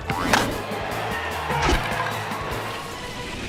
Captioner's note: cheers and applause